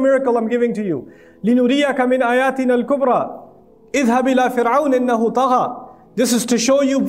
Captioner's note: Arabic